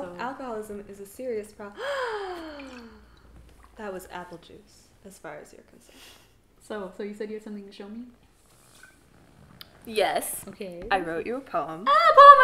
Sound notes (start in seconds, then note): 1.8 Hamlet fake gasps